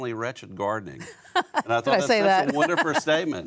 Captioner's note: laughs